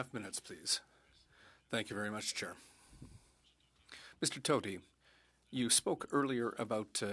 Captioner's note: speaking French